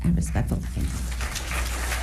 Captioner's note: applause